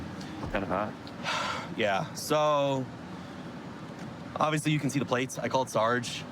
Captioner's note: sighs